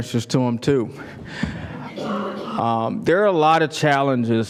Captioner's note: laugh